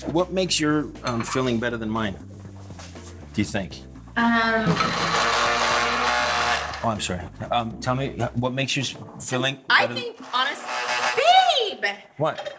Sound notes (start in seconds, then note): 4.6 processor blending; 10.1 processor blending